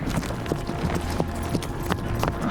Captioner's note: horses trotting; horse whinnies